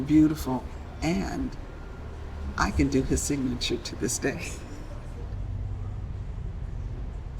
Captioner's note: laughs